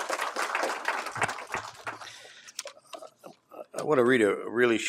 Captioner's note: applause